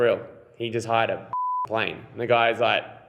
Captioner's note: beeping